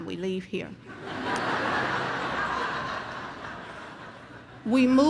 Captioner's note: audience laughs